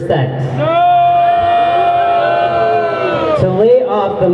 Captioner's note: crowd booing